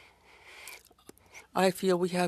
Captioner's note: speaking French